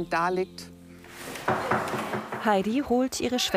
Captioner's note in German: Türklopfen